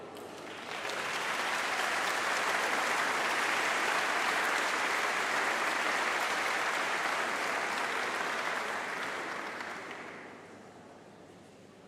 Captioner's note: applause